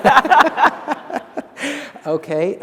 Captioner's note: laughter